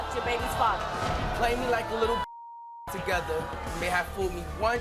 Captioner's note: beep